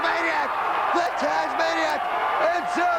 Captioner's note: crowd cheering; crowd chatter